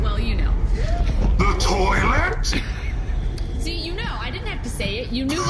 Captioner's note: shouting